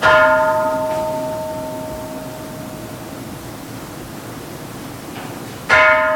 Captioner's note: Kansho ringing